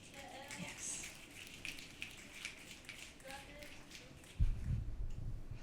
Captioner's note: audience clapping